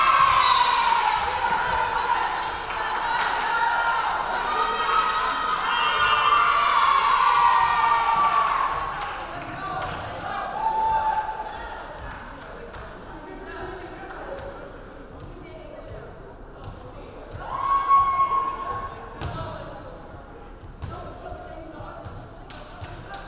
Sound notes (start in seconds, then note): 0.2 crowd cheering; 0.3 referee whistling; 5.6 referee whistling